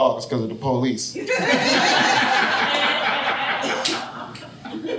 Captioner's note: audience laughing